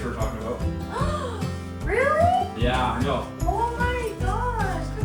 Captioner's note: gasp